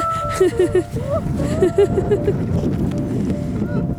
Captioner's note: laughing